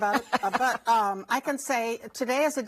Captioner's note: laughs